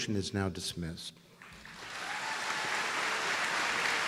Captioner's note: applause